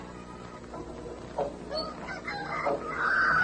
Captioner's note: rooster crows